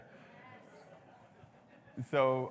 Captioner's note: audience laughs